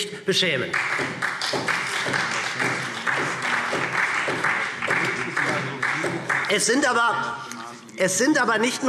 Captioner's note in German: Beifall SPD